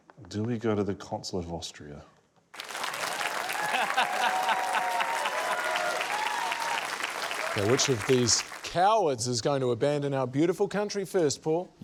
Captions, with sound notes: Do we go to the Consulate of Austria? (APPLAUSE, CHEERING) - (LAUGHS) So, which of these cowards is going to abandon our beautiful country first, Paul?